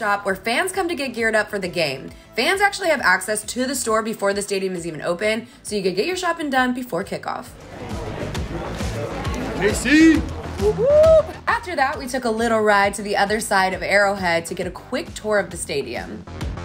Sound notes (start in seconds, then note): 9.7 fan cheering; 10.1 whooping